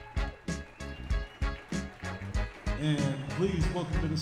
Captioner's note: audience cheers